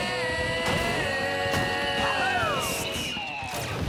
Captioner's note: fireworks whistle and explode